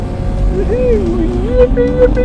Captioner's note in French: Cri de joie